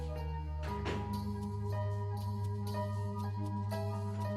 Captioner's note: door closing